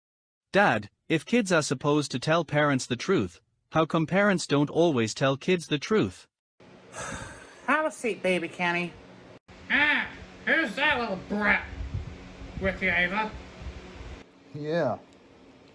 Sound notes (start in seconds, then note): 6.9 sighs